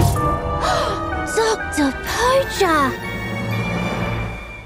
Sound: gasps

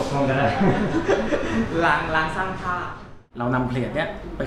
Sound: laugh

